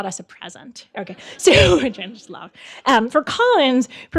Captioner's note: chuckles and mumbles